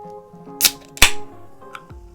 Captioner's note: can opening